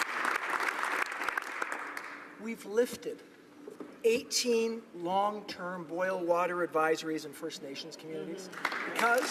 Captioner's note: applause